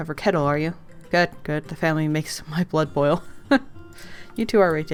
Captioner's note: laughs